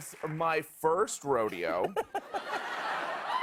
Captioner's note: laughter